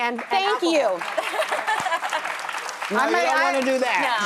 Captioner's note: audience applauds